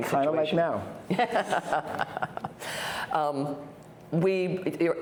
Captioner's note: laughing